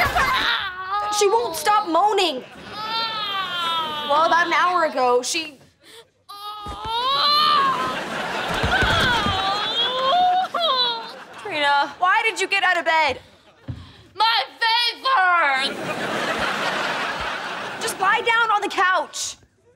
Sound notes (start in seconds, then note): 2.7 moaning; 6.4 moaning